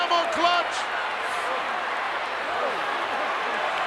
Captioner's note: crowd yelling